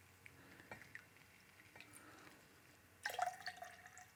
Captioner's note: juice trickles